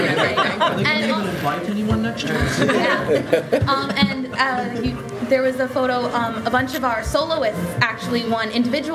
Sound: extended laughter

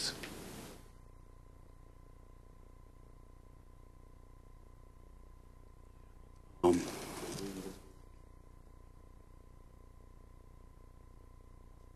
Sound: no speaking

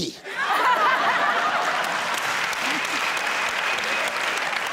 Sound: audience applauds

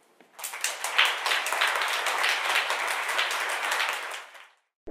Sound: audience applauds

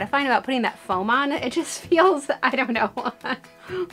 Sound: laughs

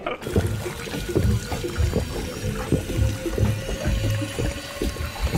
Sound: Fortnite chug jug sound effect

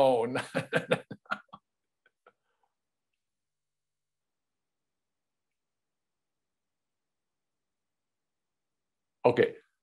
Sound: laughs

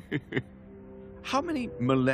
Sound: chuckling

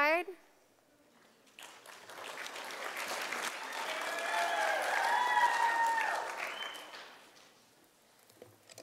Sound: sound of applause from audience

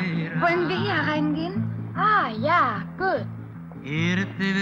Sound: German language

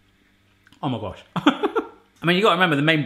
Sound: laughs

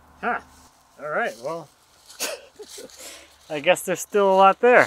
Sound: chuckles

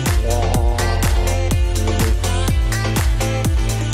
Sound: upbeat music; gargles

